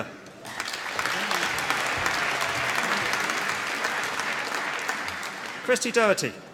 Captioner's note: applause